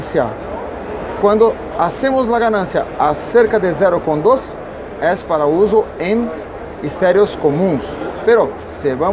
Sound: high impedance

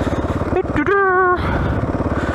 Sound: hums

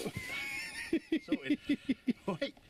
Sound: laughs

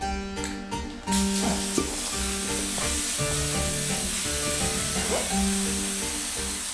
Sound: spraying

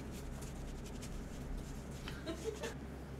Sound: scrubbing

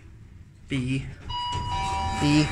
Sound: down chime rings

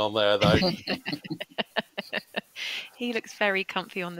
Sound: laughter

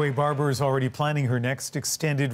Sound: applause

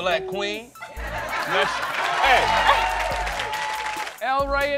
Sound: audience laughter and applause

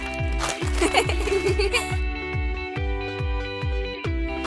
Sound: girls laughing

